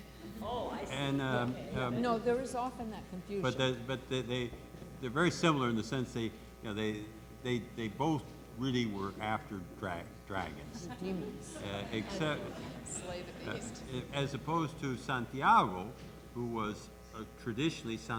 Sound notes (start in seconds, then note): 0.3 voiceover